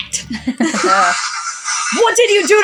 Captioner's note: electricity Crackling; both Chuckle